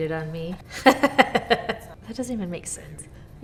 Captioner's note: laughs